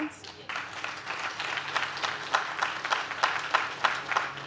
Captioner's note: audience claps